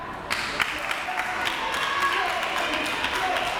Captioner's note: crowd clapping